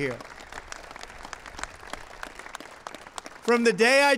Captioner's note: applause